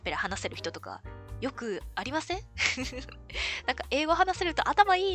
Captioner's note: laughs